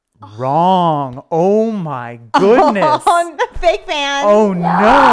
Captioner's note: laughing